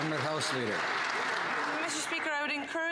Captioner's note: some Applause